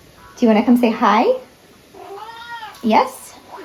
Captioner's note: cat meows